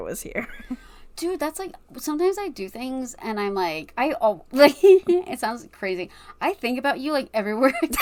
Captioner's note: laughs